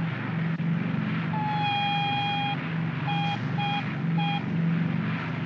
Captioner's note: aircraft rumbles; ominous beeping